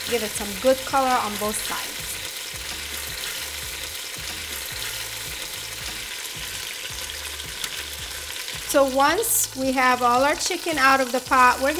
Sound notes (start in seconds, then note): 2.4 pan sizzling